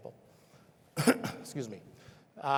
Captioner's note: coughs